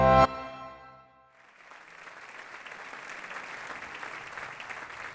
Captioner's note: applause